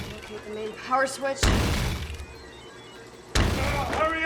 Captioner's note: thunderous crashes